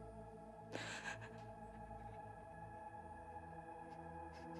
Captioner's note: Scarlet crying